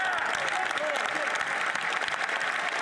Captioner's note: some Applause